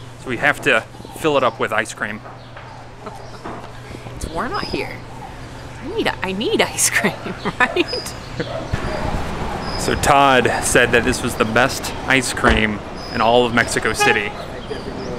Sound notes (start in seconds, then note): 3.0 chuckles; 8.5 laughs